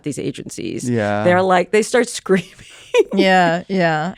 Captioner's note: laughs